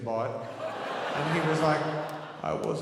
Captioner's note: audience laughing